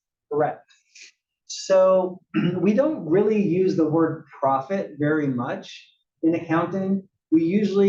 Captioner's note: cough